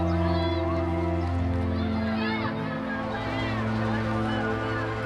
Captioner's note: children's excited chatter; chanting in Native language